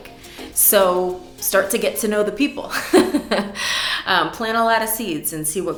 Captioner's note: giggles